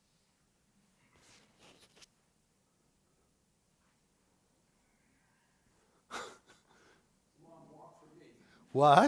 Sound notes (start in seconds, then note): 6.1 laughs